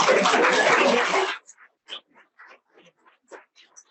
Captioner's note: audience applauding